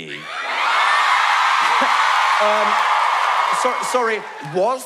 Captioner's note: audience cheer